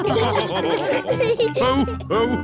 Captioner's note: all laughing